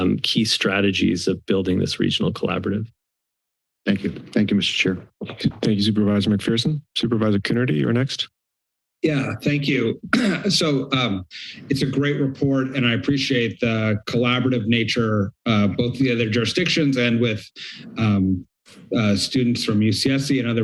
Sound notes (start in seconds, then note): 9.8 clears throat